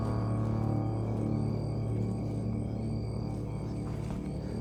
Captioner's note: none